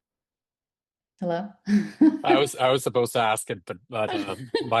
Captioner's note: chuckles